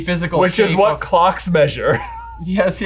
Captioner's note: chuckles